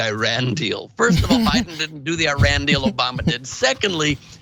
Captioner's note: laugh